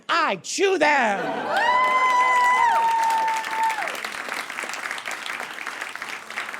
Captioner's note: audience laughs, then cheers and applauds